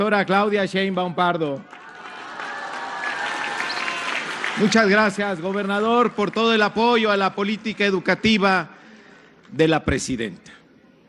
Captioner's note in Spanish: aplausos